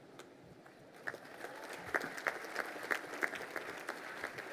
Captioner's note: crowd applauding